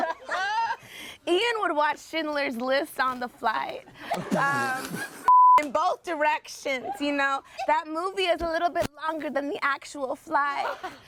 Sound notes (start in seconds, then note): 4.1 laughs; 5.2 beep